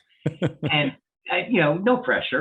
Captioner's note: laughing